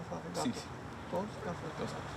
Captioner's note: speaking in Spanish